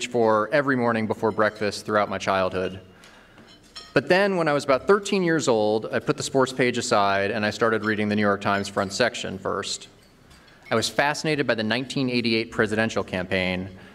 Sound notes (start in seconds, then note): none